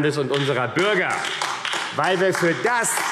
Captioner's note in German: Beifall AfD